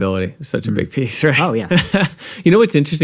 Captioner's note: chuckles